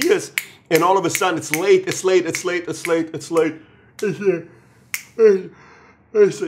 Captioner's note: yawn